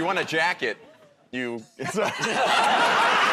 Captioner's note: laughter